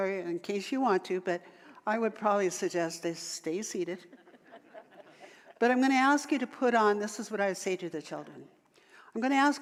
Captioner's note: audience laughter